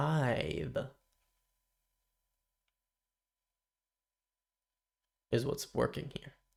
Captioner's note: silence